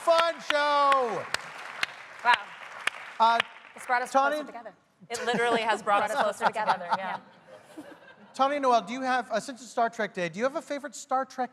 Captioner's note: applause